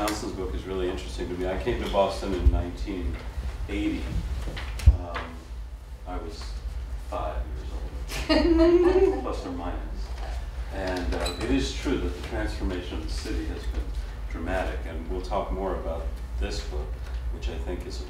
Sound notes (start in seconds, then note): 8.1 laughter